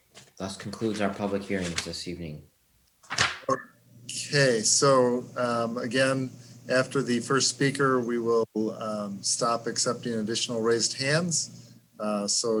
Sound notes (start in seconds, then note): none